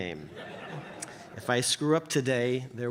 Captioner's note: audience chuckles